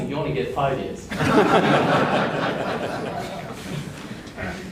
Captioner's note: audience laughs